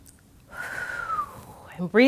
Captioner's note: gasps